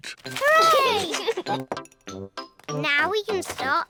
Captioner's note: giggles